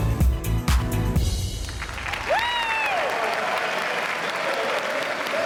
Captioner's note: applause